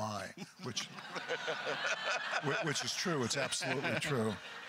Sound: crowd laughter

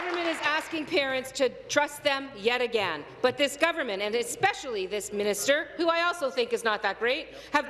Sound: some Applause

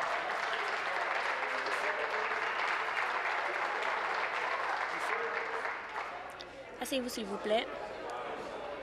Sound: applause

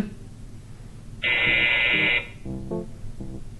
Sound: buzz

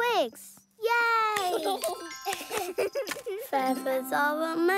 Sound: giggles

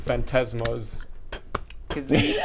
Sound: spit

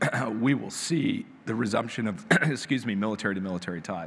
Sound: clears throat; clears throat

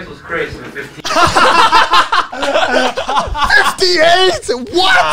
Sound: everyone laughs

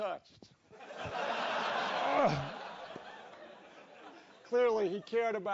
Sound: laugh

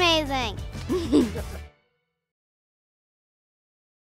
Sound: chuckles

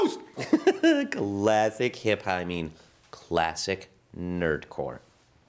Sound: laughs

